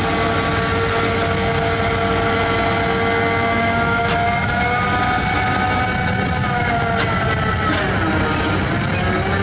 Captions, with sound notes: [Engine Rev] Crew pumps water in borehole! Sany rig keeps drilling non-stop.